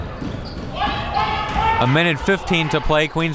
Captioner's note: crowd members shouting